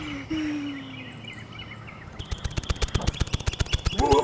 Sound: snapping

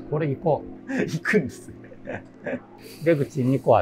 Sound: laughing

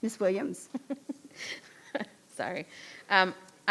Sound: chuckling

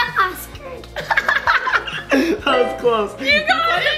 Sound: laughing

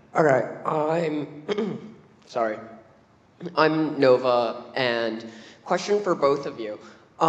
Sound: cough

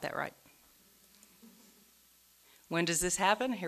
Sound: audience laughing

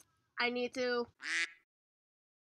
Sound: quack

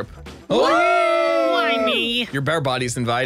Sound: cheers

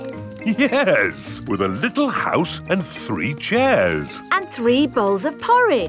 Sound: chuckling

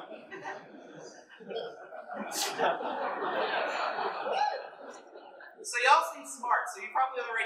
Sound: laughter

